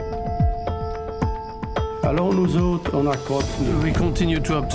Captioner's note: non-english speech